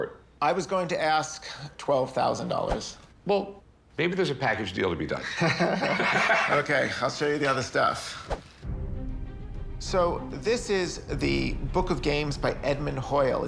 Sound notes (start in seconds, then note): 5.2 both laugh